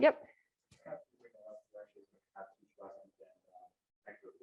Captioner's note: murmurs